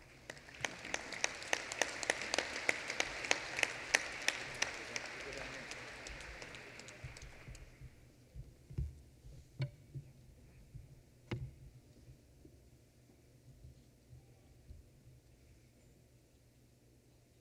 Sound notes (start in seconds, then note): 0.0 applause; 4.7 chatter